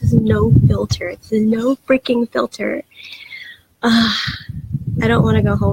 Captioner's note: sigh